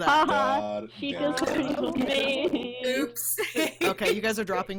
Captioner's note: background chattering